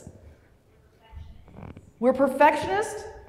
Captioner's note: voiceover